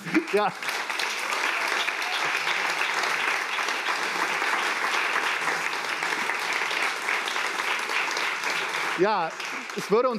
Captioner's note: applaus